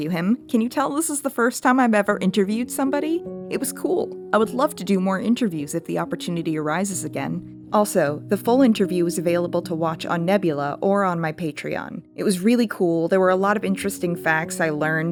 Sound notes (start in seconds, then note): none